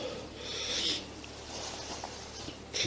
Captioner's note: sniffles